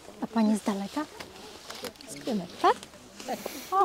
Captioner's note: chatter